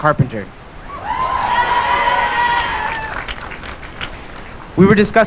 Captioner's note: cheering